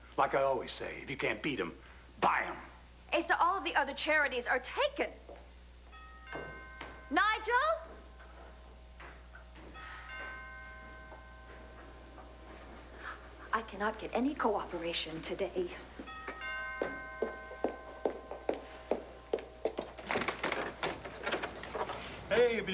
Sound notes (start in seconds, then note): 8.2 doorbell rings